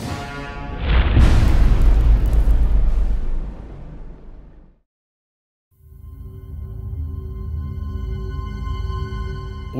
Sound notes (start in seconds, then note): 0.8 impact